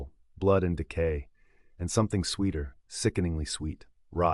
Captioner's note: breathing